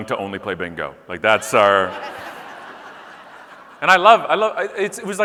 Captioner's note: audience laughing